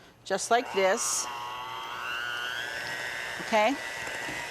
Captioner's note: mixer whirring